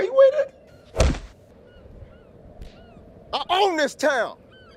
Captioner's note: fists whacking